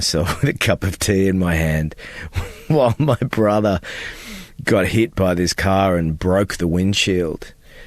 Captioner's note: laughter